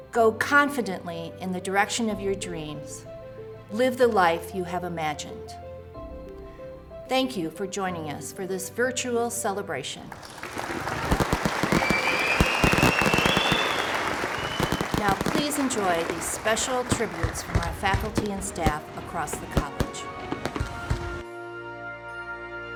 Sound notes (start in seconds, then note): 10.2 applause; 20.1 soft music